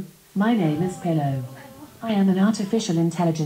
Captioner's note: audience murmuring